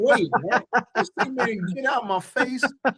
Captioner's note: laughing